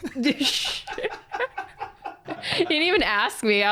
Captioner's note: both laughing